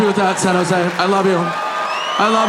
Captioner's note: audience cheering